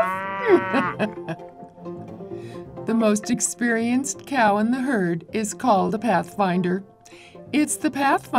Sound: laughs

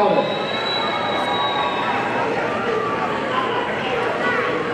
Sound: audience cheering

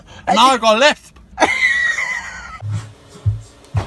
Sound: Ben Laughing hysterically

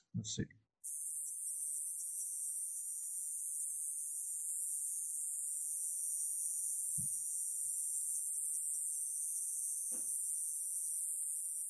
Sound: synthesized insect sound

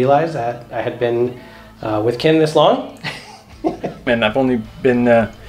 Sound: laughs

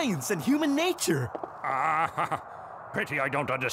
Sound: chuckling

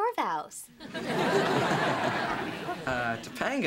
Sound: chuckles

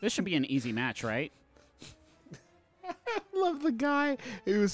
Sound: laughing

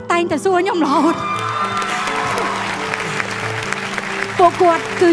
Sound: cheer and applause

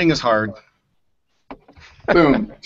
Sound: laughs

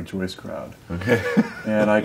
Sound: chuckling

